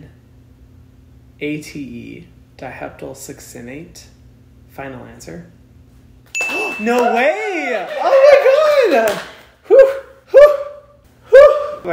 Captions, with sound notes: D-I-H-E-P-T-Y-L-S-U-C-C-I-N-A-T-E Diheptyl Succinate. Final answer. (ding) No way. Oh my God. Whew.